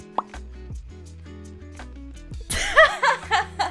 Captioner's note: popping; laughs